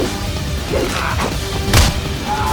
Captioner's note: biker screaming; biker grunt